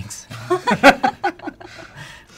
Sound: laughter

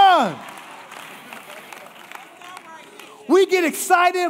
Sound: congregation applauding

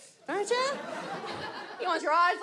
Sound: audience laughs

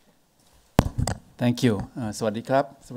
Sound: speaks in foreign language

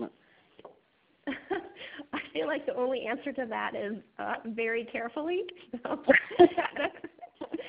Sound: laughing

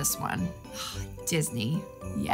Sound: sighs

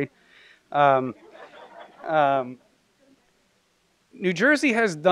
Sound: laughter

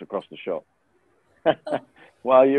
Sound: chuckling

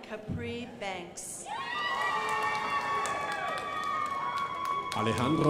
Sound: crowd applauding

